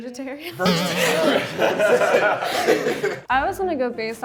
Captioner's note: contestants laughing; laughs